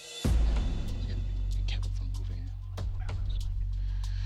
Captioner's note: whispered